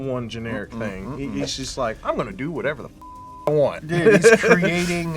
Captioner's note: beep